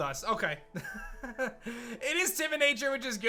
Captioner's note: chuckles